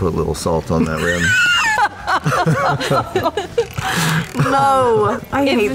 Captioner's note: laughter